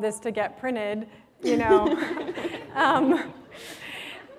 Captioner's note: laughter